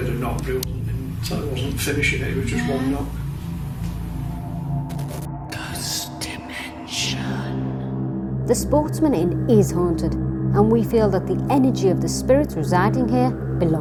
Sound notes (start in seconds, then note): 5.1 whispering Voice